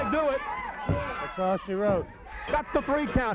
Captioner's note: hands thudding